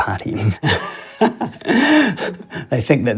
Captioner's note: person laughing